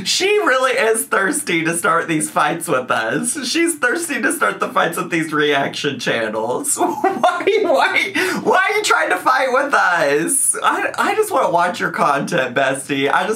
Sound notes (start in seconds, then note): 6.7 laughs